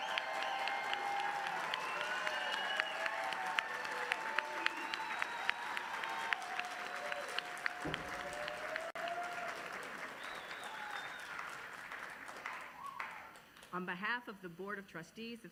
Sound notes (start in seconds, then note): 0.0 applause